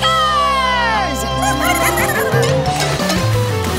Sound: squeaking

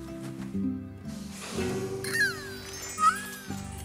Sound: sniff

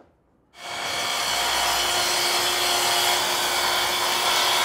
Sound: cutting wood

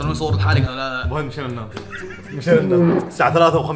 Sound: laughs

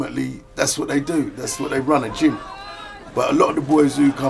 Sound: crowd cheering

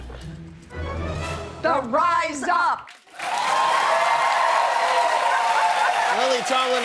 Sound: cheers and applause

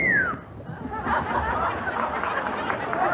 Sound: sexy whistle; audience laughs

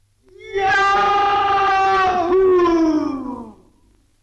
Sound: yelling

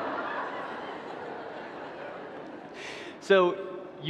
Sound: audience laughing

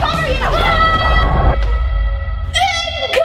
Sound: both shouting

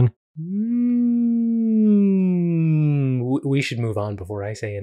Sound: hums thoughtfully

